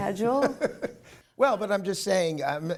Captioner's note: laughter